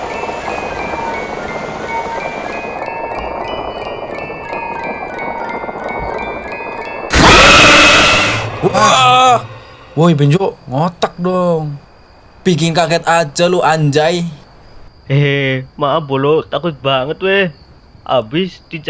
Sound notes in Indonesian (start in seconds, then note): 7.1 berteriak